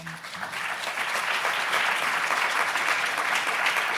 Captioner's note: applauds